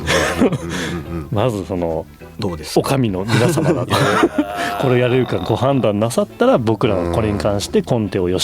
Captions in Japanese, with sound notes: [笑い] まずその どうですか? 女将の皆様だこれやれるかご判断なさったら僕らはこれに関してコテを吉部が書きます。